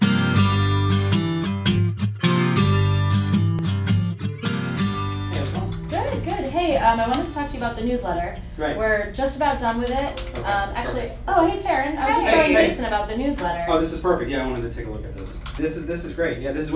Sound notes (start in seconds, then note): 0.1 acoustic Guitar Music; 5.6 background chatter